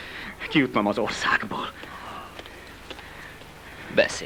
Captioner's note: Harry panting